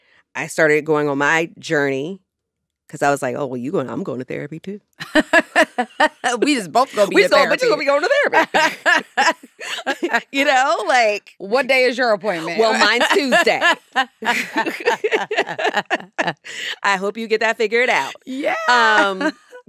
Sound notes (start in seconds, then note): 5.0 laughs; 8.6 laughter; 14.4 laughter